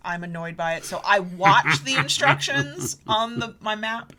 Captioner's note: laughs